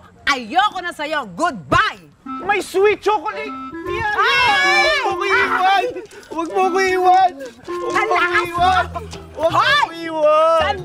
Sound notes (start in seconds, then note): 4.0 Loisa screams falling down